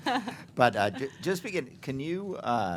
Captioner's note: laughter